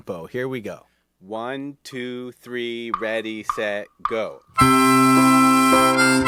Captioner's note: metronome clicking